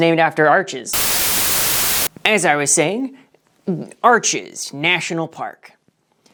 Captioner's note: Static